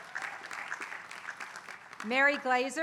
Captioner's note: applause